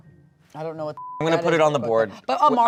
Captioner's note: beep